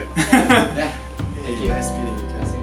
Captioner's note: laughter